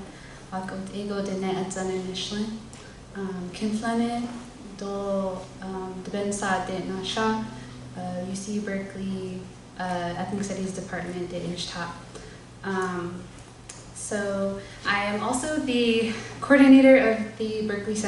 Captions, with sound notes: UC Berkeley ethnic studies department [NON-ENGLISH SPEECH] So I am also the coordinator of the Berkeley